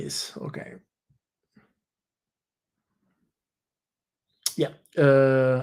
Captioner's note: silence